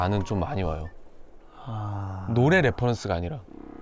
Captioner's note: sigh